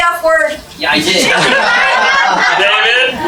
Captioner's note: laugh